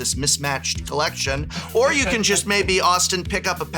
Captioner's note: laughs